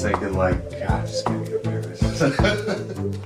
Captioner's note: laughs